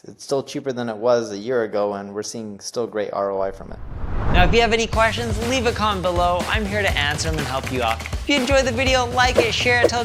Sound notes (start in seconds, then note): 3.4 transition whooshes